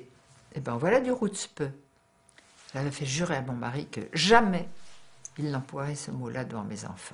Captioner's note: foreign language